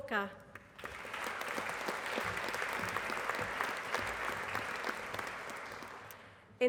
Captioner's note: applause